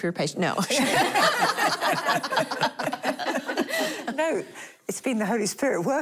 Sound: laughing

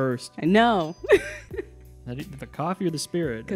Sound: laughing

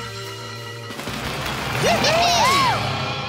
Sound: cheering

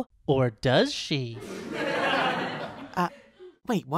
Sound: laugh track

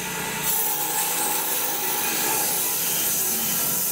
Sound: saw blade humming

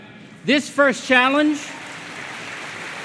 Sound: applause

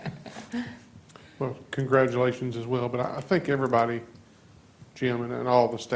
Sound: laughter

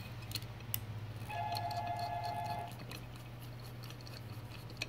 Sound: phone ringing

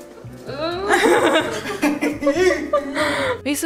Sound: laughing

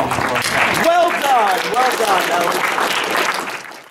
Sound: audience applause

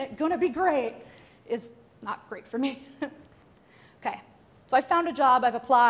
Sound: laughs

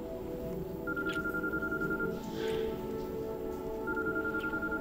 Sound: phone rings

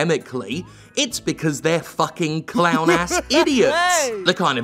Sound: clown laughter

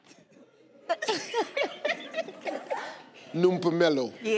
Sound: women laughing

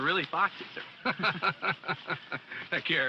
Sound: laughing

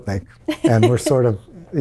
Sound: laughs

